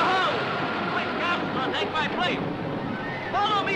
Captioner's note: men shouting